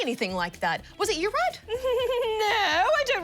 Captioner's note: laughs dismissively